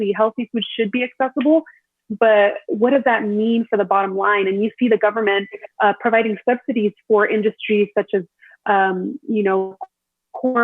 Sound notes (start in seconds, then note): 9.3 audio distorts